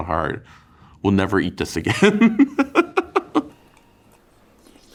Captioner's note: laughs